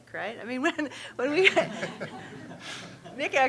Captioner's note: laughing